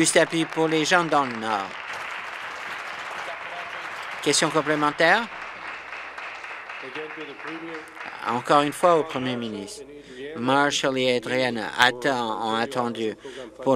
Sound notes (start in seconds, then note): 5.3 applause